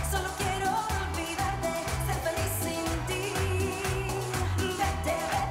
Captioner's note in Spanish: palmadas al compás